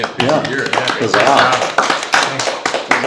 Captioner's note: applause